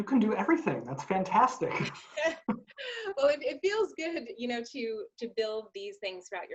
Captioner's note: laughs